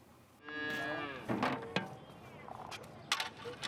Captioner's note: cow bellowing